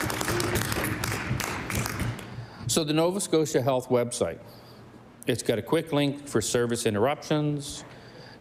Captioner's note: applause